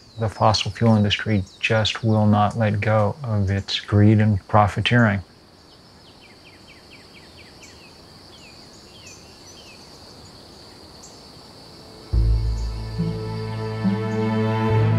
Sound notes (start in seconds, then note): 6.0 birds chirping